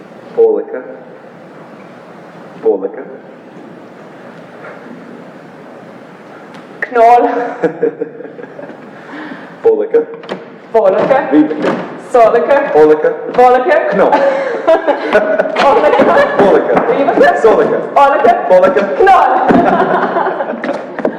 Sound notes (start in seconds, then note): 7.3 laughs; 13.9 laugh